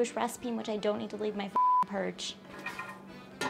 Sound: beep

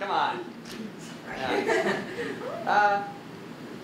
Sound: uncomfortable laughter

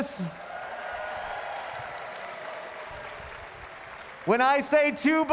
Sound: audience cheering and applauding

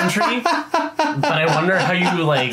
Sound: laughing

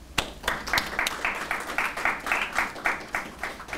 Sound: applause

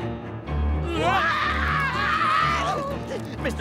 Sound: screaming

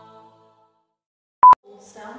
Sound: piep

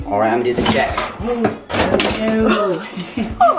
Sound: gasps; glass breaking

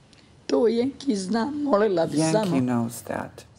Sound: speaks in foreign language

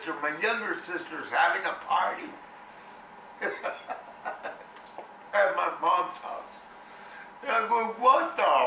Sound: sobbing laughter

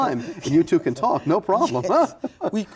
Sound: laughs

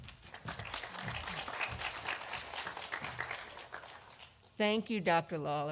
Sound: audience applauding

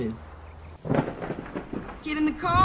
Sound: distorted Thunder Sounds

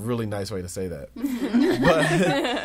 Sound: all laughing

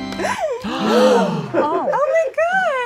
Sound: gasping

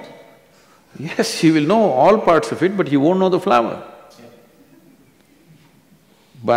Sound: laughs

